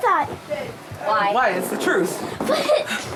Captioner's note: laughs